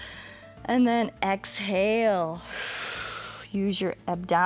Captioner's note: exhales